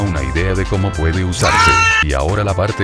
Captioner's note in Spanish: Sonidos de dolor extremo